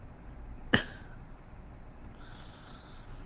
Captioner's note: laughs